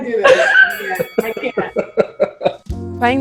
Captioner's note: boxing match bell